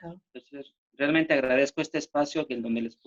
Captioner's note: speaking spanish